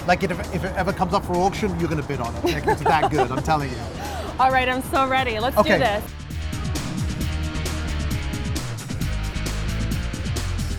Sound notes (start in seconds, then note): 2.4 laughing; 7.5 upbeat music